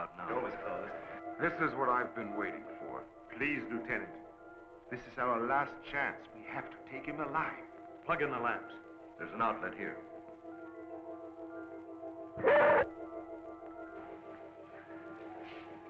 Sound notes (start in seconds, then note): 12.4 Venus barking